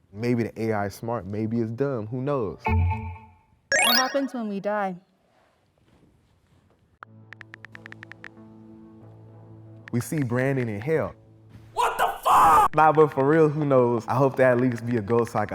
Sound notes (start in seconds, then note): 3.1 dinging sounds; 7.3 typing sounds